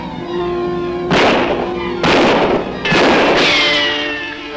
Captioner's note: guns bang